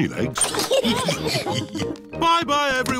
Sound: all laugh

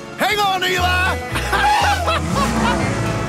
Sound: laughing

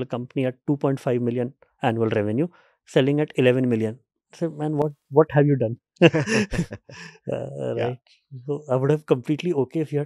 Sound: chuckles

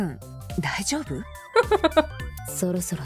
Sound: chuckles

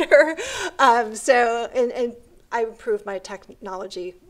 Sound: laughs

